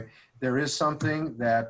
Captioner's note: none